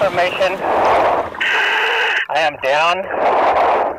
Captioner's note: breathing heavily